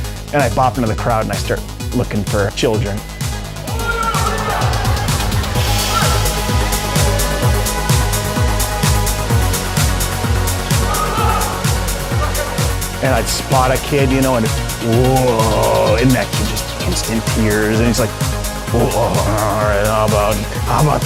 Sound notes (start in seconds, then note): 3.8 yelling; 5.8 upbeat music; 18.5 growling